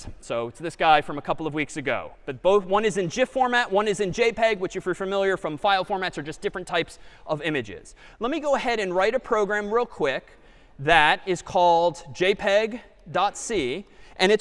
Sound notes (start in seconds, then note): none